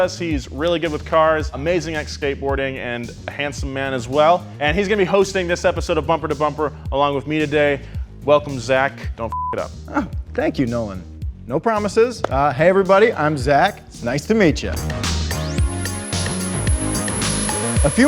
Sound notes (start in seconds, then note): 9.3 beep; 14.9 upbeat music